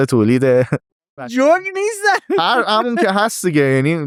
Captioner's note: laughs